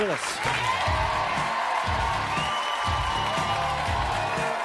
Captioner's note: audience cheering